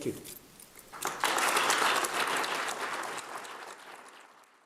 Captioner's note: applause